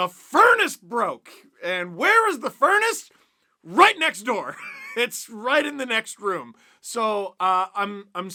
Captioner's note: laughs